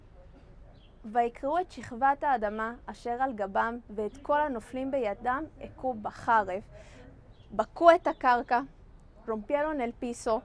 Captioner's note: Hebrew